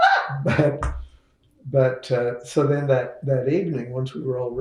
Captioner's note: laughs